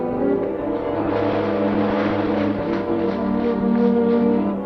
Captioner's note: water splashing